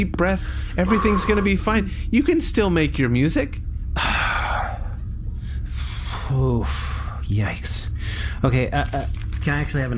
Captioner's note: breaths in and sighs